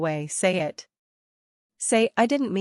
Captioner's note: silence